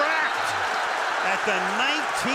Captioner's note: cheering